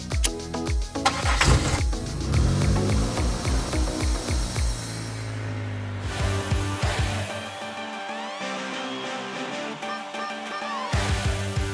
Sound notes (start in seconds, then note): 1.0 car engine roaring; 1.0 seat belt clicking; 6.0 upbeat music